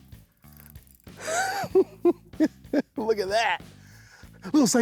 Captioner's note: giggling